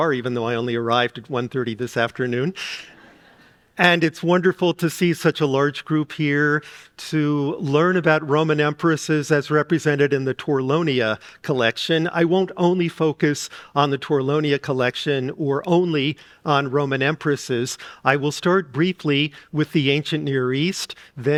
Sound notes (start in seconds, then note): 2.8 audience laughing